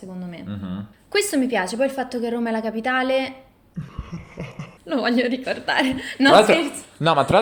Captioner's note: risata demoniaca